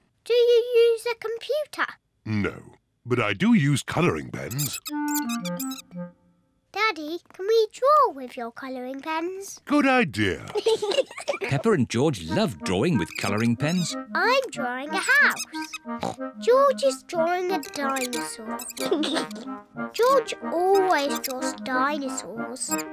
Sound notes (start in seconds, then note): 15.9 oinks